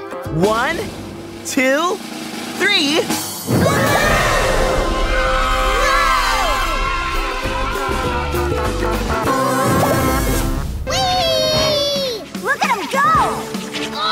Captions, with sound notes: One, two, three, balloon! - Whoa! - Whoa! [cheering] [popping] Wee! Look at 'em go!